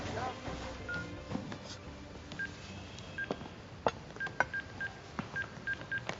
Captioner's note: beeping